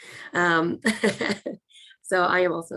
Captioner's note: laughs